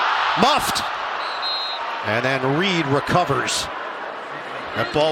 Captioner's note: whistle blowing